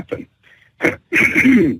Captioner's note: clears Throat